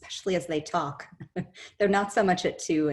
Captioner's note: chuckles